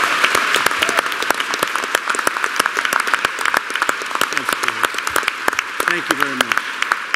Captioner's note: applause